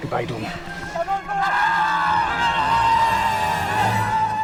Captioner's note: yelling